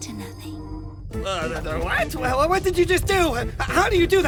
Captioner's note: stammer